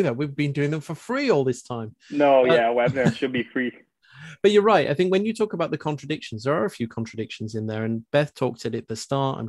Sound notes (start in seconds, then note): 2.5 chuckles